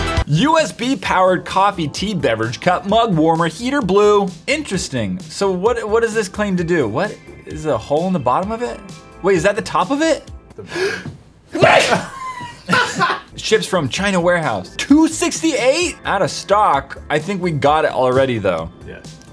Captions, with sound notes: USB Powered Coffee Tea Beverage Cup Mug Warmer Heater Blue Interesting So what does this claim to do. What? Is there a hole in the bottom of it? Wait Is that the top of it? *Sneezes* Ships from China Wearhouse 2.68, out of stock. I think we got it already though